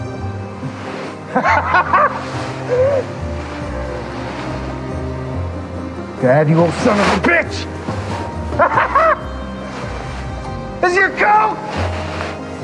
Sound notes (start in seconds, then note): 1.3 Rick laughs; 8.2 laughs